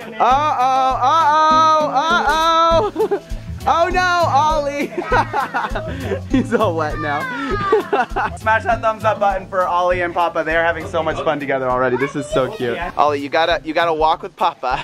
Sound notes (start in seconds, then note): 4.7 laughter